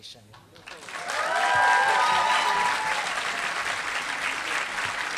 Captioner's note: applause